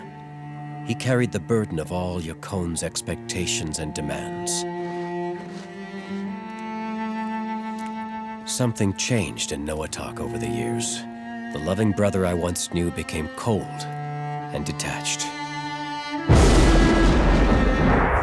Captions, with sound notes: He carried the burden of all Yakone's expectations and demands. Something changed in Noatak over the years; the loving brother I once knew became cold and detached. [thundering]